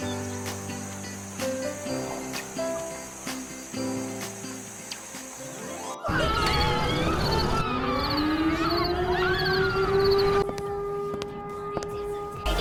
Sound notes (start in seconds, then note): 6.0 war siren; 6.3 panicking; 10.4 footsteps